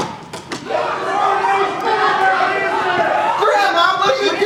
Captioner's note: angry people shout offstage